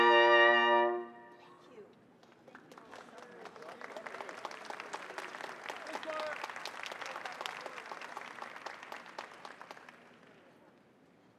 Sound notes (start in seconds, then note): 2.2 audience applauding